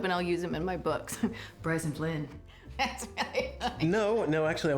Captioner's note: drucinda laughing